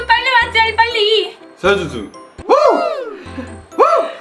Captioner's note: whoop !